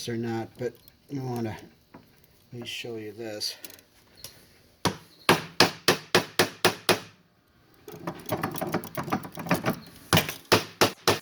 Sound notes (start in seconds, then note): 5.3 hammer banging